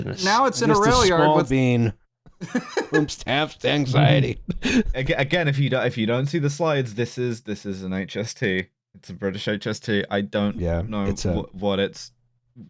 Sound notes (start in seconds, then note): 2.9 laughs